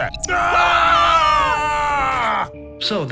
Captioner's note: screams